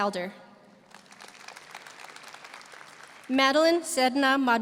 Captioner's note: audience applauding